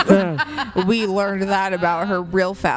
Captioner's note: laugh